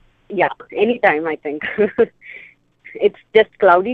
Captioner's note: laughs